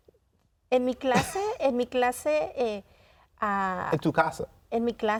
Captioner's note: continues speaking in Spanish; speaking in Spanish